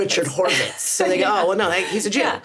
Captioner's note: laughs